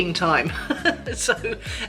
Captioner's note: laughs